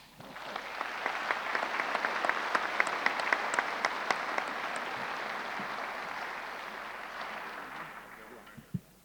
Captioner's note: applause